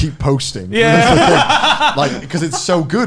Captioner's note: laughs